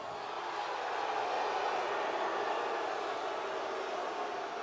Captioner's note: audience booing